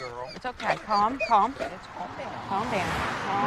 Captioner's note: dog whining